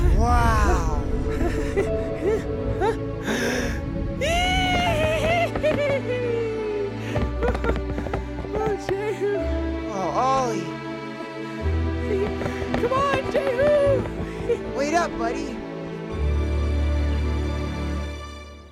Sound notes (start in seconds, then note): 1.5 אולי צוחק בזהירות; 4.2 אולי צווח בשמחה